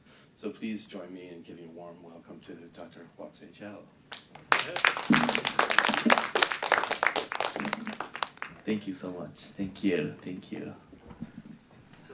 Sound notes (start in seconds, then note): 4.1 applause